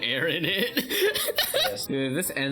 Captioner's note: laughs; chuclking